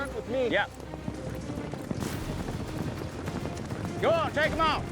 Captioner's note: hoofbeats